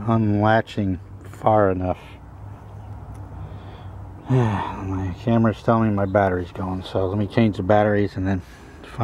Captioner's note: sigh